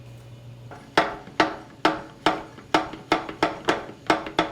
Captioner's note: banging